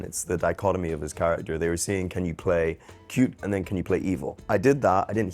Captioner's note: none